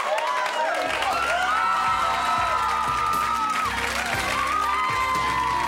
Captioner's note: cheering; smooth jazzy music